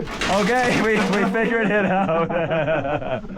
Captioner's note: metal bangs; speakers laugh